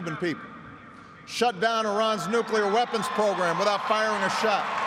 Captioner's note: cheers and applause